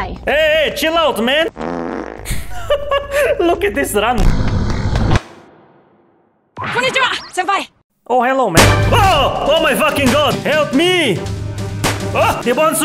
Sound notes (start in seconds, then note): 2.2 laughs